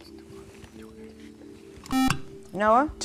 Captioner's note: buzzer